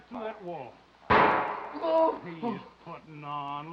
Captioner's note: gun firing; Scott groaning